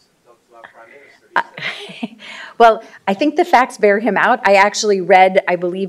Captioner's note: laughter